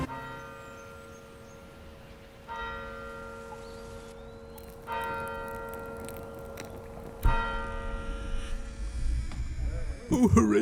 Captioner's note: wedding bells ring, rain and sadness echoes in the background